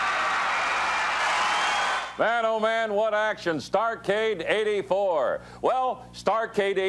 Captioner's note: crowd cheering